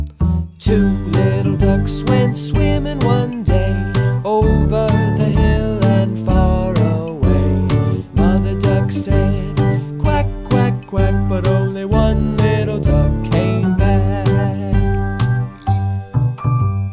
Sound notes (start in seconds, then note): none